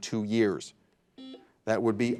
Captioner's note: buzzer buzzing